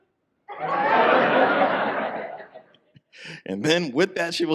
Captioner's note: audience laughs